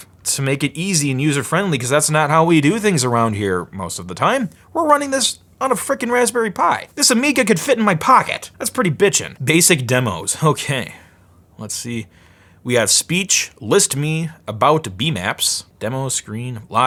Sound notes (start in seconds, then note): none